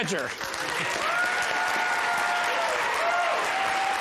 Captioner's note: audience cheers and applauds